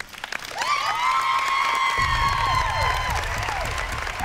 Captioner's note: cheering